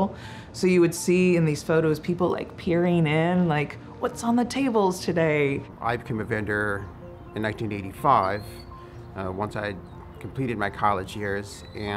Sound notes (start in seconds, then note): none